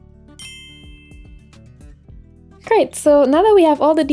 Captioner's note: clinks